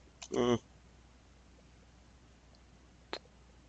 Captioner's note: mouse clicking